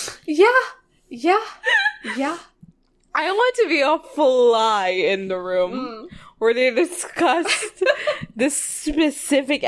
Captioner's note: laughs